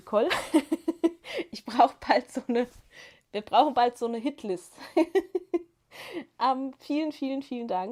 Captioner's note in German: gelächter